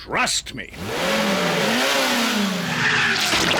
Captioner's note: revs engine